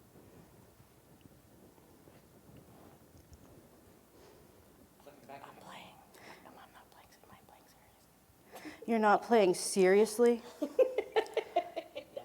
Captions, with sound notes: You're not playing seriously. [Laughing.]